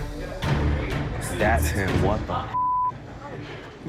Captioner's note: beep